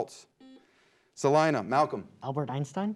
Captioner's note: beep